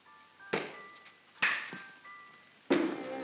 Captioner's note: pop & crack; pop